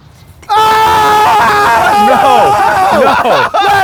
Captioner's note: screams